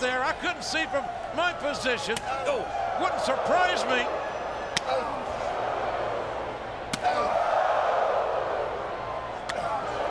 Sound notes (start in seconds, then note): 5.0 strikes smacking; 6.7 crowd clamoring